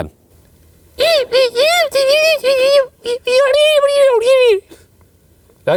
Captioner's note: squeaking shrilly